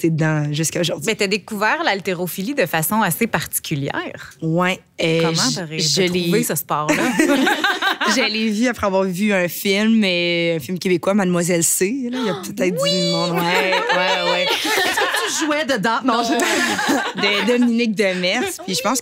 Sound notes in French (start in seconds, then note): 6.8 rires